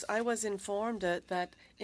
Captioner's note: speaking French